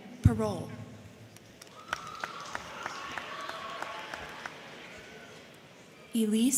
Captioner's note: crowd clapping; crowd cheering